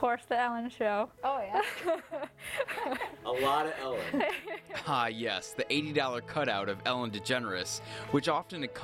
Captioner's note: laughter